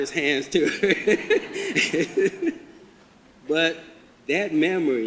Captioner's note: laughs